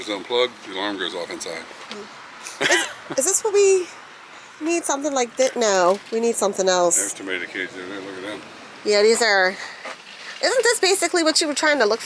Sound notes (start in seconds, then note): 2.4 laugh